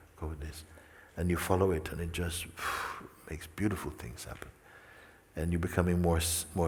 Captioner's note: exhales